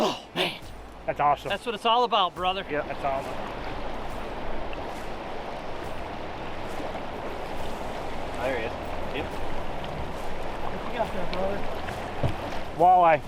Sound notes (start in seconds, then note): 4.0 water flows